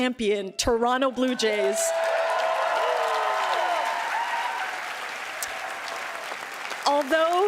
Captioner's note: applause